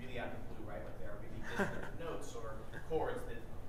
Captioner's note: chuckles